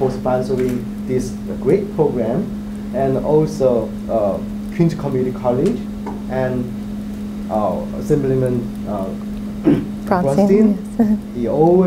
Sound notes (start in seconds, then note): 9.6 clears throat